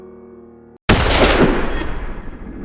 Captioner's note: gun Shot